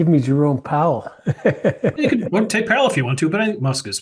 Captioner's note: laugh